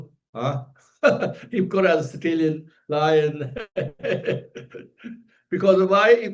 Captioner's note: laughs